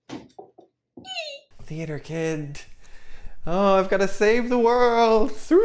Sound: muttering to self

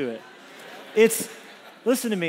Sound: congregation laughs

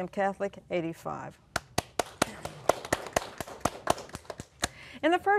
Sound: applause

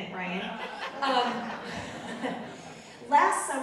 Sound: audience laughing

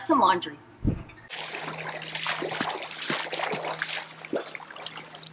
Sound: water splashes

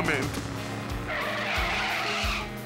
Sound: tires screeching

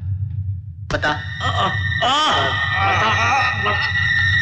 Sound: groans

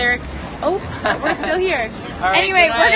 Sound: laugh

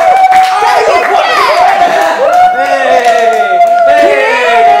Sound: clapping

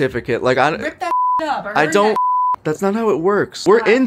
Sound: beep

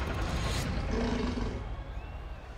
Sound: growling

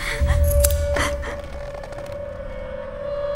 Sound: gasps

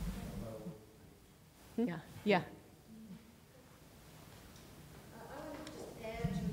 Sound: speaks quietly without mic

